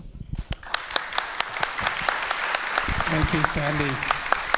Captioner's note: audience applauds